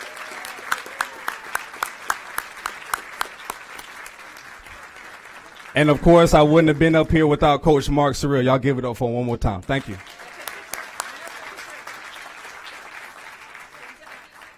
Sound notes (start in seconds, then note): 11.3 applause